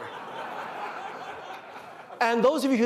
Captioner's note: laughter